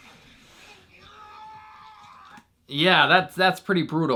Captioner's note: man groaning